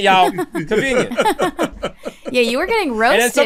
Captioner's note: laughter